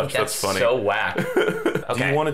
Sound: laughing

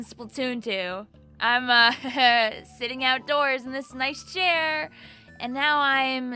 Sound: chuckles

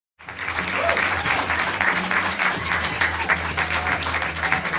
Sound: audience applauding

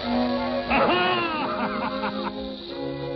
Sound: evil laugh

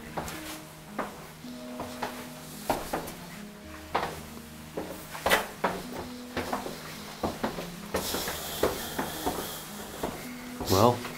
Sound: footsteps tapping

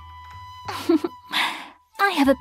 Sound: laughter

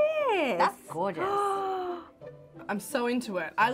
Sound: gasping

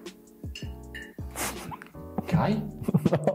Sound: laughing; laughs

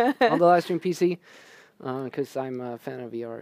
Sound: laughter

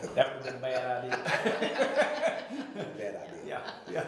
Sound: laughing

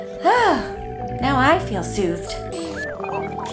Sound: sighs; calm music

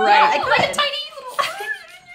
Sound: chipmunk noises

